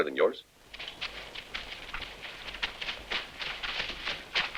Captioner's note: hooves rustling